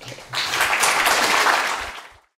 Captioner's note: audience applauding